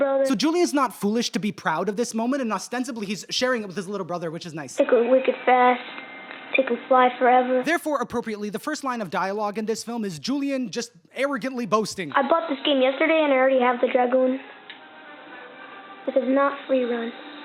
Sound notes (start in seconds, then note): none